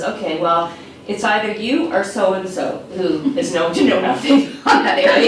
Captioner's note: laughs